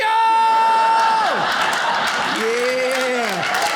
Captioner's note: audience laughs